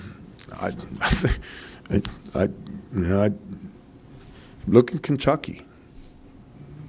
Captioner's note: chuckles softly